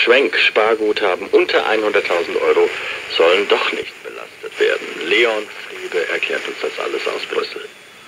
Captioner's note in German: Radio: in der Nacht von der Euro Gruppe beschlossen worden